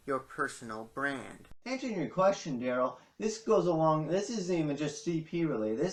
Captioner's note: as Gary Vaynerchuk